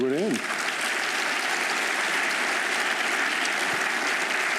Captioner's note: applause